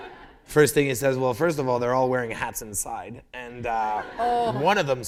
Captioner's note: laughter